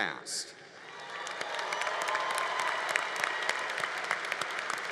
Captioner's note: congregation applauding